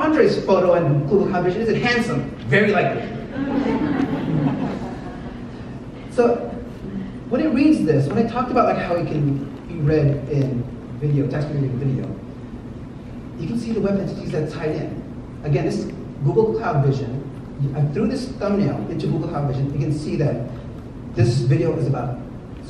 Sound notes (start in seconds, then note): 2.9 audience laughs